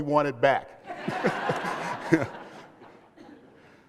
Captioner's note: laughter